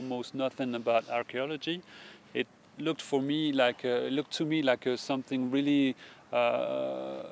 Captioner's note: coughing